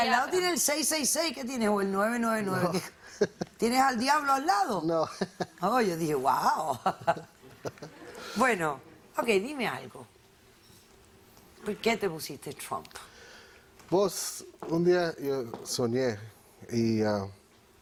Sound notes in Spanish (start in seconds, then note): 2.6 El ríe; 6.7 Ríe